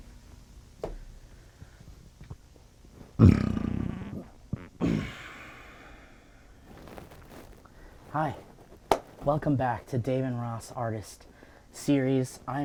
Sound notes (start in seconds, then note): 3.2 grunts; 3.3 loud rumbling